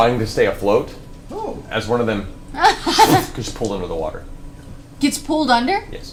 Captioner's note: sucking sound